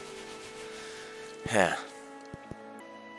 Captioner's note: sigh